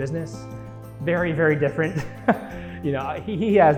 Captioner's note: chuckling